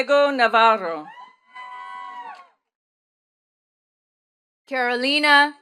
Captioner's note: attendees cheering and clapping